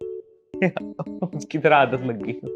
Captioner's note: laughing